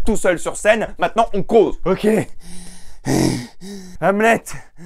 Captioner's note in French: Halète